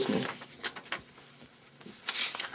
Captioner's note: paper crunching